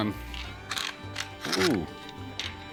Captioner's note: clacks